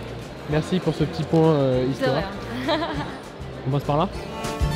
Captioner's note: laughs